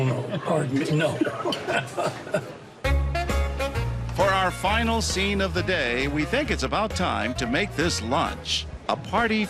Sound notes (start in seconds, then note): 1.2 laughs